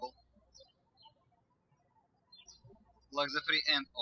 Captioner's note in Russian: птички щебечут